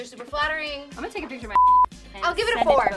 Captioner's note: beep